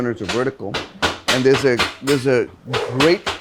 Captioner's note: knife tapping